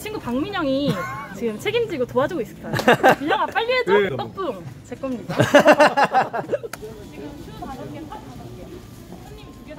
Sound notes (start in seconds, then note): 5.3 laughing